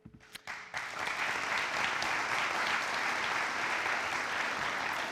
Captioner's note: audience applauds